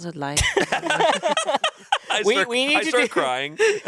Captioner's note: everyone laughs